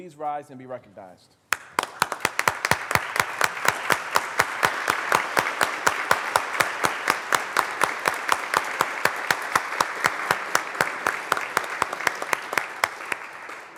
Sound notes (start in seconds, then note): 3.2 applause